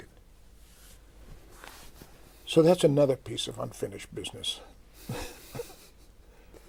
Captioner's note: laughs